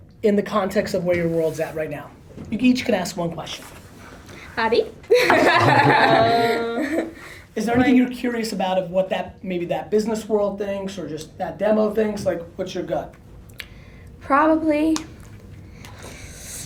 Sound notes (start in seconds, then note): 5.2 nervous laughter